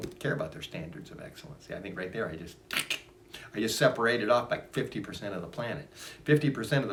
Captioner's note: snip snip